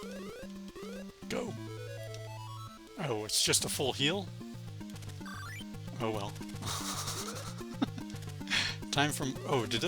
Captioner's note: laughs